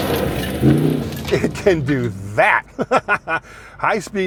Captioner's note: dirt rustling; laughing